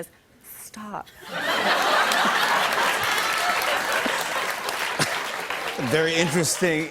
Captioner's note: laughter